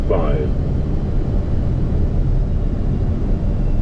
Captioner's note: wind whooshing